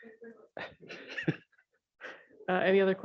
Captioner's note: chuckles